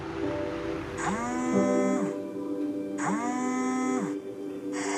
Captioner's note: car rumbles; phone buzzing